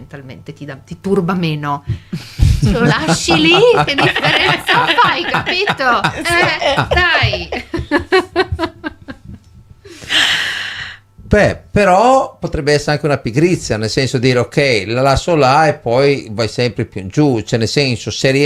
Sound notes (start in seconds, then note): 2.2 laughs